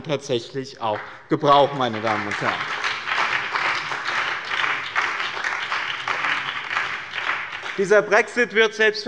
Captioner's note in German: Beifall bei dem BÜNDNIS 90/DIE GRÜNEN sowie bei Abgeordneten der CDU und der SPD